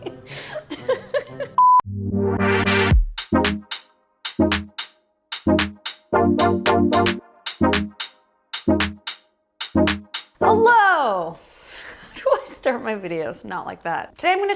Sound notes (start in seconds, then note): 0.0 laughs; 1.6 beep sound; 2.5 upbeat music